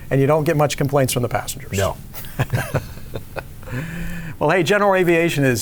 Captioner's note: laughing